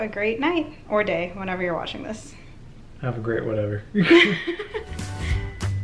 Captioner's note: both laugh